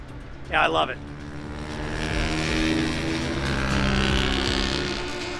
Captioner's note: motorcycles revving